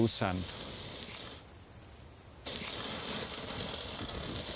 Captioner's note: device whirring